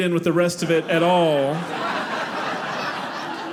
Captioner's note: audience laughing